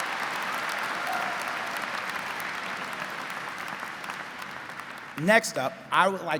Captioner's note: crowd continues applauding